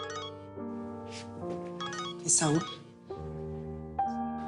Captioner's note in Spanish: Suena el celular